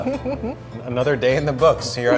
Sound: laughing

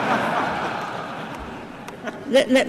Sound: laughter

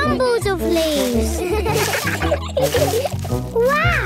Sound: laughter

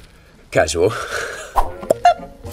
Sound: blows raspberry; logo whooshing

